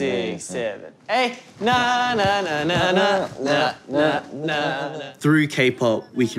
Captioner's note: all hum tune